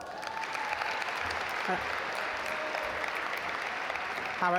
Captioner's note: audience applaud